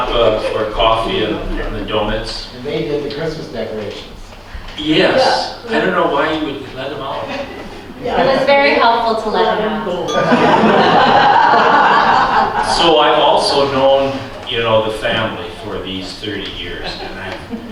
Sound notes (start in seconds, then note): 10.1 laughter